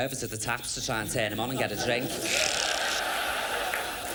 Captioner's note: imitates slurping noise